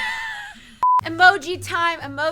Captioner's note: laughing; beep